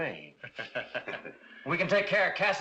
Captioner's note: curly and slim chuckles